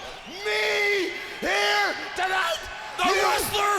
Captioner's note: crowd cheering